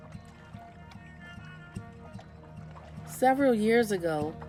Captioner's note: water lapping